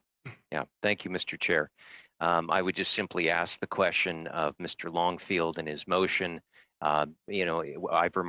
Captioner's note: speaking French